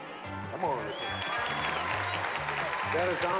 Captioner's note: applause